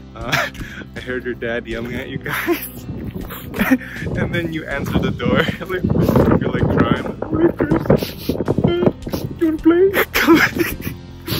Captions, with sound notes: I heard your dad yelling at you guys And then you answered the door You were like crying "Oh hey Chris *sniffles*" "You wanna play? *sniffles again*" haha